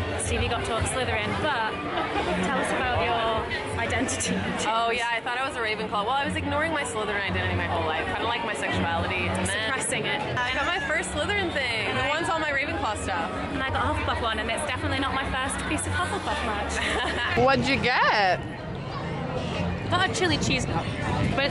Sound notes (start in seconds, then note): 16.6 laughing